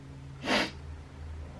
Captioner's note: sniffs